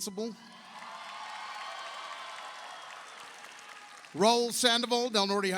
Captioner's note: audience cheers; audience applauds